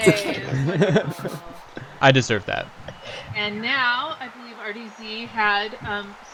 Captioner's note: stompy